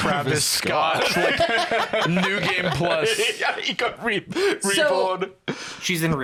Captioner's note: laughing